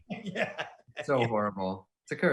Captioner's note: laughing